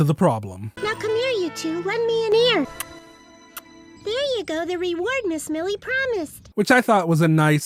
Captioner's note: kiss